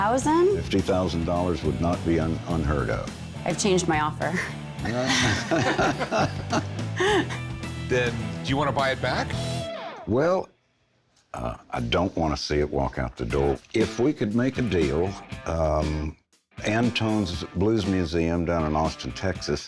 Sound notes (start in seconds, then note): 4.8 all laughing